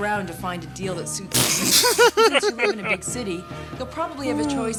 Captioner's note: laughing